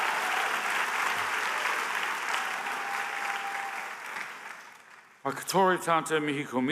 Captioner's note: applause